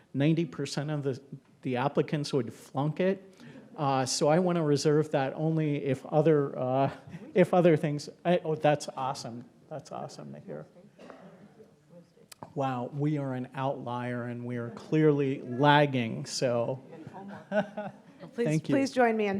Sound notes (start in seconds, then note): 10.8 speaking faintly; 16.5 speaking faintly